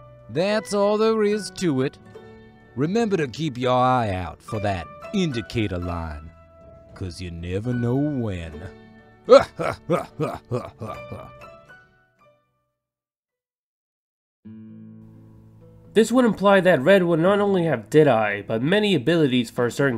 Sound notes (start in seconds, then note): 9.3 laughs in fat sheriff